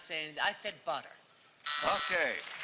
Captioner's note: buzzer